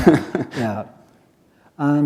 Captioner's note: chuckle